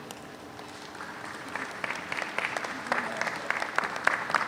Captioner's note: audience applauds